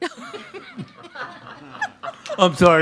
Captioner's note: members laughing